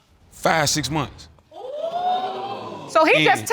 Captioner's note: audience exclaiming